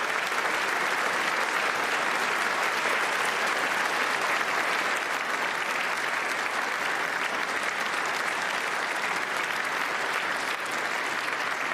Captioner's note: applause